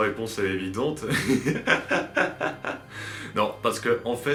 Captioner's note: laughs